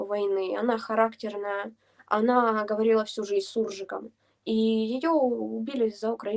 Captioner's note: a mix of Ukrainian and Russian